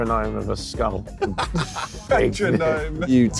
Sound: laughing

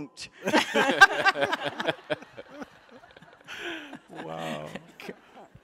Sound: laughter

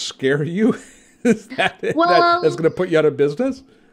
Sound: laughs

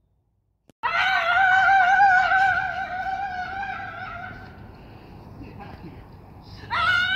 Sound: screaming

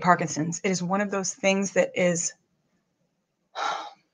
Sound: sighs

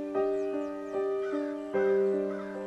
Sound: crows cawing

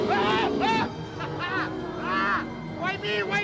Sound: screams

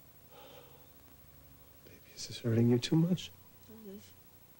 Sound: sighs

